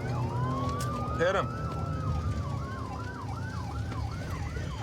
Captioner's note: sirens wailing